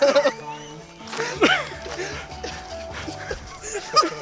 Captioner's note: both laughing